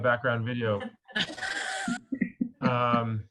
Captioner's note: laughter